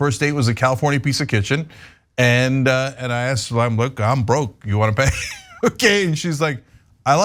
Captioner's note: laugh